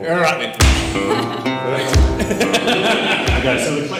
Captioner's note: laughing